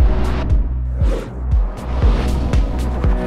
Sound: none

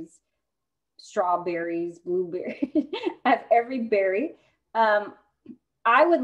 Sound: laughter

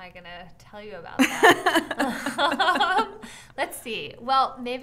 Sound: laughing

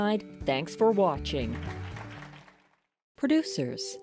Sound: applause

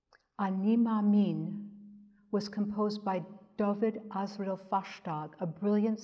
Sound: speaks in Hebrew

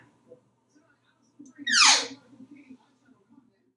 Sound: squeaking sound

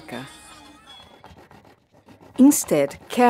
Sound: knife cutting

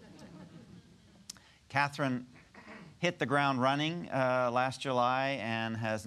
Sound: audience laughter

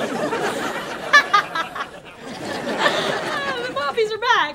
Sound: punchy laughter

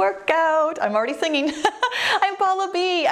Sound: laughs

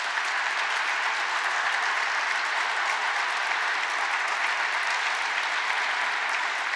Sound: applause

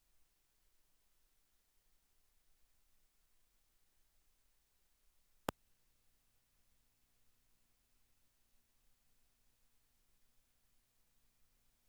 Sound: silence

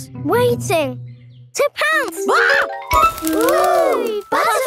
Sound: screams

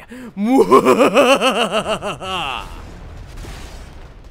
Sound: maniacal laugh

